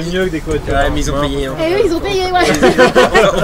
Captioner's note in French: rires